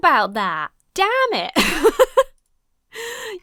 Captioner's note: laughs